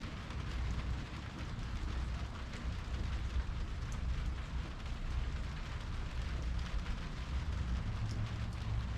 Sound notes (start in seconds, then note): 0.0 rain fall